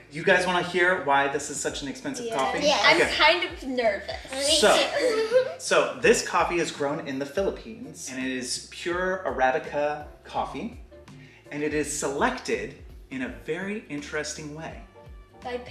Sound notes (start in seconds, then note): 4.1 giggles